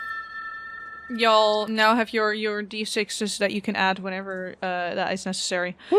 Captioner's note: Chime of Bardic Inspiration